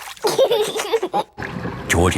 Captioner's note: giggling